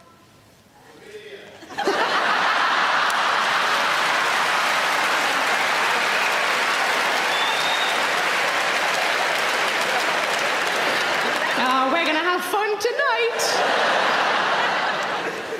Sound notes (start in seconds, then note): 3.8 audience laughing